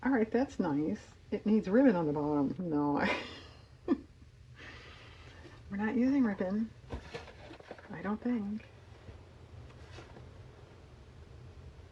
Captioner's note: laughs